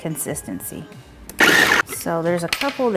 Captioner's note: food processor whirring